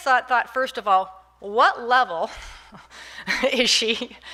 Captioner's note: laughing